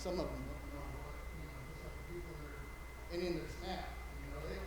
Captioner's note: light chatter